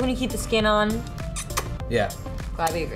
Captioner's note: kissing sound